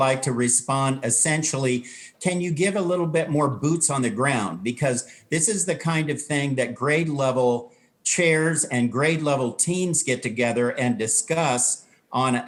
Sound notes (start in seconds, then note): none